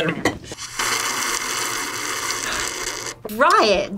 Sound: slurps

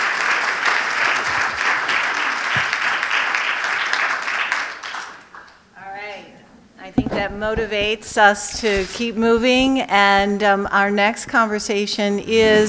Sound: applause

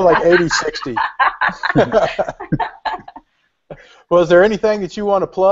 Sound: laughter

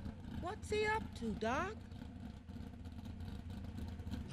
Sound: car

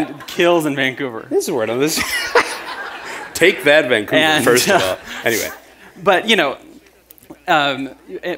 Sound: laughter

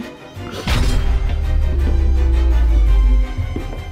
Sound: footsteps

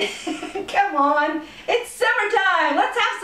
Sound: laughter

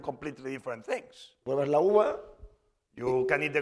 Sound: speaking spanish

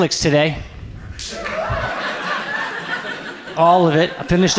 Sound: audience laughs

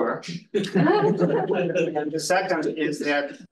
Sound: students laughing

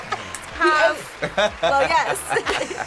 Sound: laughing

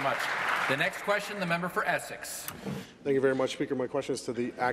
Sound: applause

